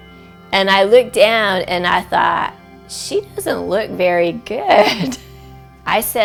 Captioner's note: laughs